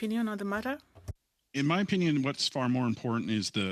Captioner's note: speaking French